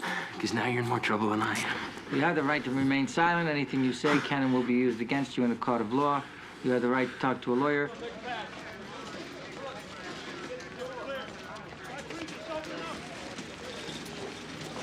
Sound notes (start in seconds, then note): 8.1 people chattering indistinctly